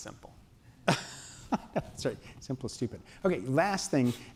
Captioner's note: laughs